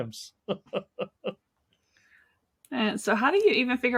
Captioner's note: laughing